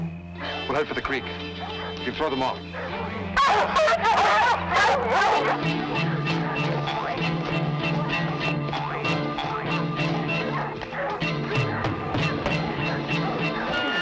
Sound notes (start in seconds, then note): 2.4 dogs barking; 5.7 suspenseful music